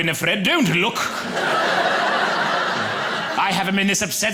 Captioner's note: audience laughing